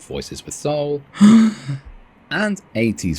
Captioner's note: gasp